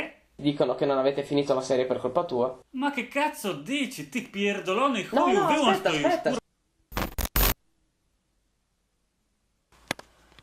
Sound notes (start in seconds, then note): 5.3 speaks polish